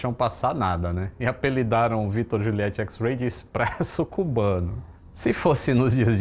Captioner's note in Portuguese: risos